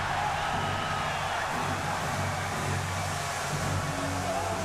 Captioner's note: applause